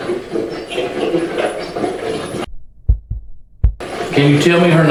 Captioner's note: static